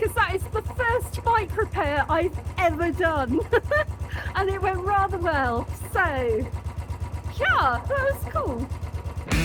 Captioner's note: laughing; rock music